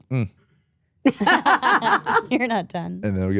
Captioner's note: both laugh